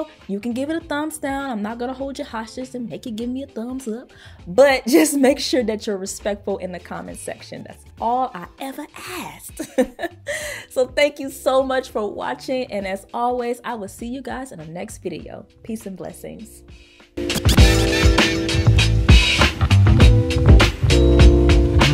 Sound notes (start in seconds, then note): 9.5 laughs; 16.9 upbeat music